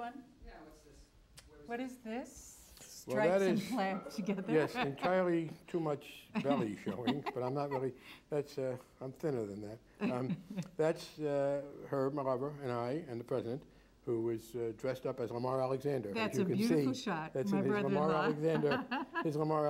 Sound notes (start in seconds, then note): 6.4 laughs